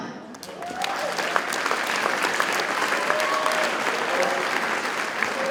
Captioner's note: audience cheers and applauds